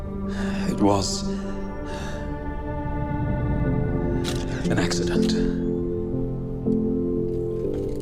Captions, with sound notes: [SIGHS] It was... [CAMERA CLICKS] ... an accident.